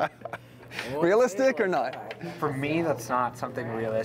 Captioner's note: laughter